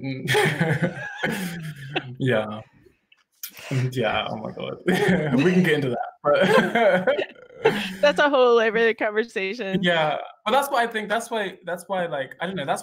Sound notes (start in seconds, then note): 0.2 both laughing; 7.4 laughing